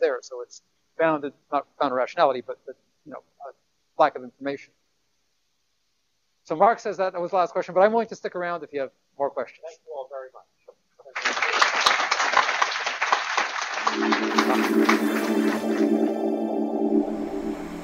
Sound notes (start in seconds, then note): 11.1 applause